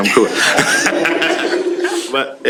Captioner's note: laughter